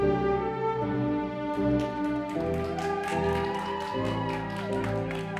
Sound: audience applauding

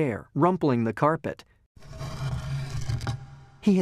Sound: chair dragging on floor

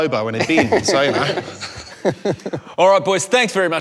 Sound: laughs

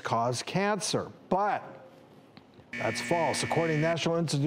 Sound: buzzer

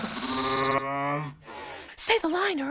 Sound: seething

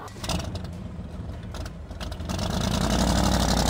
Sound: engine roaring

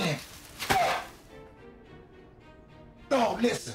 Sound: bag of heroin crunching

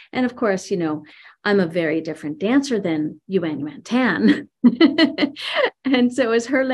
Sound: laughs

